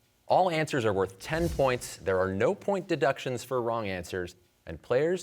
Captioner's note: none